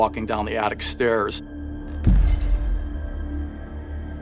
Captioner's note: thudding